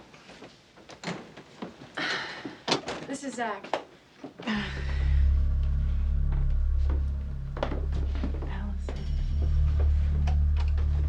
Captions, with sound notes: (Kate sighs) This is Zach. (Kate sighs) (tense music) - Allison.